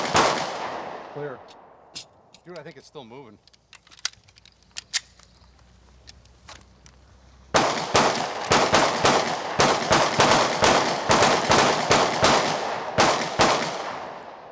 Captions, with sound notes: - Clear. Dude, I think it's still moving. (guns clicking) (guns banging)